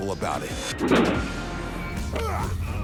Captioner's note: car bangs